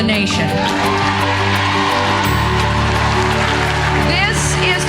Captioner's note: audience applauding